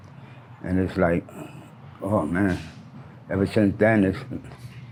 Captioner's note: air brakes hiss